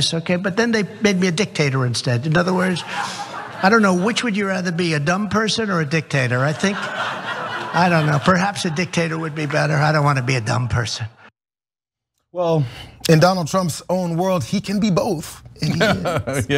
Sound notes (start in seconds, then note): 2.5 laugh; 6.4 laugh; 15.6 laugh